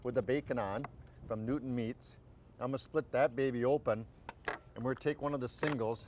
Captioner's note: none